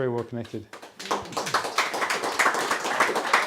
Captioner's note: applause